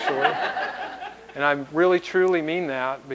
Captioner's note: laughter